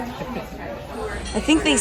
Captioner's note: laughs